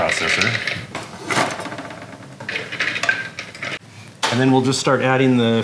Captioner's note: pistachios rattle